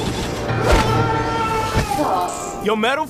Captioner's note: long yell